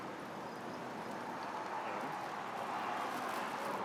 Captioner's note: street din